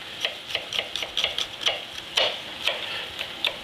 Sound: knife taps

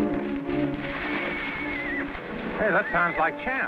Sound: horse whinnies

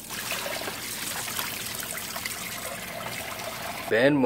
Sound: water trickling

